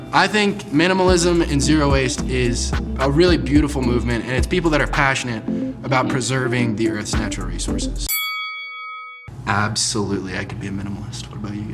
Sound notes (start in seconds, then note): 8.0 chiming